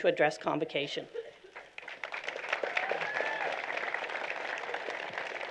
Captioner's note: applause